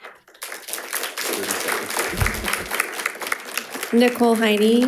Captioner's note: audience clapping